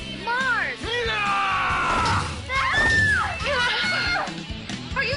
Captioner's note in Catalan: Crits